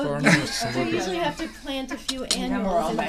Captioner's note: voiceover